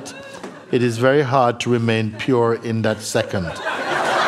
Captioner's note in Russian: смех